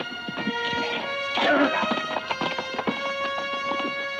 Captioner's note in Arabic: ديلجاديتو يتحدث لغة أجنبية; موسيقى درامية